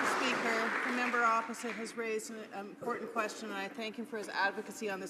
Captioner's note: some Applause